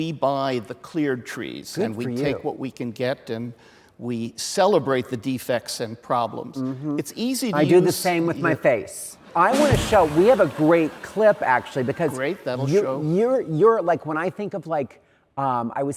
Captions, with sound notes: We buy the cleared trees and we take what we can get. And we celebrate the defects and problems. It's easy to use- - I do the same with my face. (audience laughs) (drum beats) I want to show, we have a great clip actually- - Great, that will show. - Because you're like when I think of like...